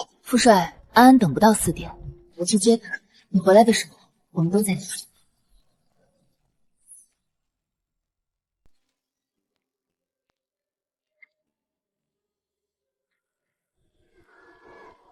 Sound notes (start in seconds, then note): none